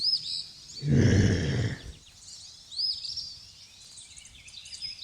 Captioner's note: woman groaning